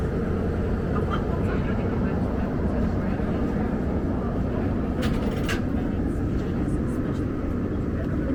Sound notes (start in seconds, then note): 0.8 the group quietly chatting and laughing